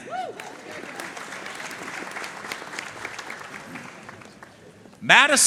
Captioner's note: audience cheering and applauding